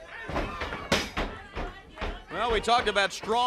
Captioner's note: crowd chatter